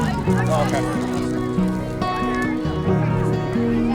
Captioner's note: gentle music; kids mumbling; gentle music